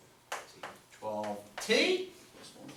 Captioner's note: voiceover